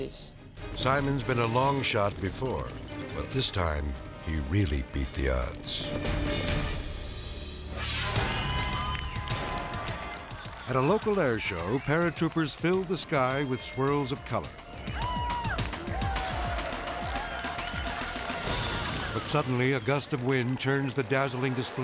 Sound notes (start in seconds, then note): 7.4 scene swooshing; 14.5 crowd cheering